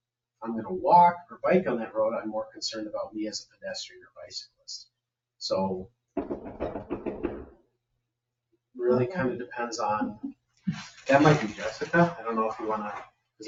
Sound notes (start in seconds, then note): 6.1 door knocking